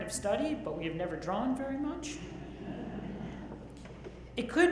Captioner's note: audience laughs